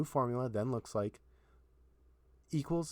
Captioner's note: silence